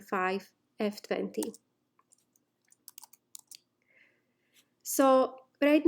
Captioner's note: instructor typing